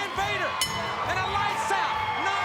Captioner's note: bell rings